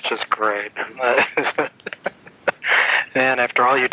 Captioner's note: laughing